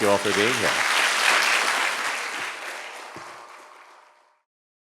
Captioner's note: audience clapping